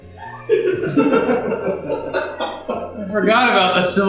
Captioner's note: laughter